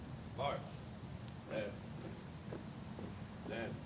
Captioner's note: footsteps fall